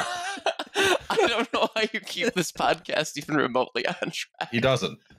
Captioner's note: laughing